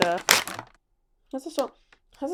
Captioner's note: wrapper crinkles